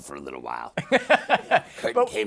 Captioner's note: laughter